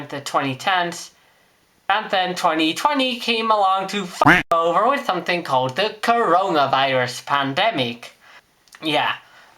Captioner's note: quack